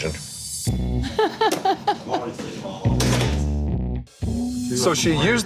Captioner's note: waitress laughing